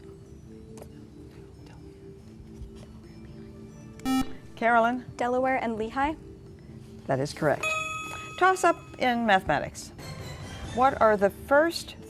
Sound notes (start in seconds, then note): 4.0 buzzer